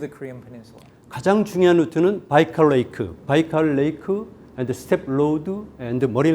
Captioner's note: speaking in Korean